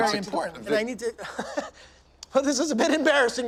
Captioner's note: laughs